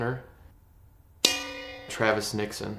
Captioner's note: bell dings